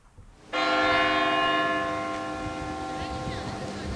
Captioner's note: church bell rings